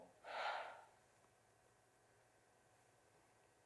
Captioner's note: Jocasta sighing